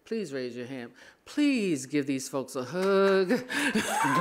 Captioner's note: applause; laughing